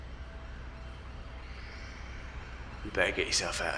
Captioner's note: sirens wailing